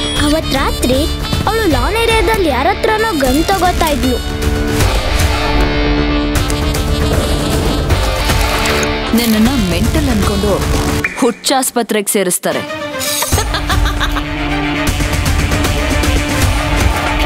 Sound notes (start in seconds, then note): 13.3 laugh